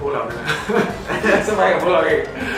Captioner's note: laughs